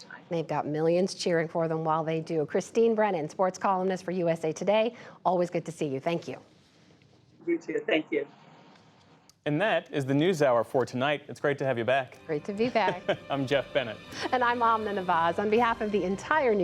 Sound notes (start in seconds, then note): 12.7 laughter